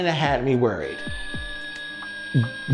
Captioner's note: angry whistling